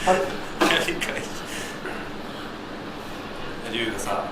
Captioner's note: laughs